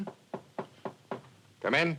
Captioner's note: knocking on door